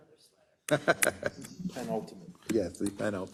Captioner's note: laugh